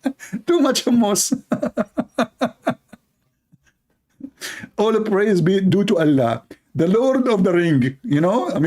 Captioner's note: Ketawa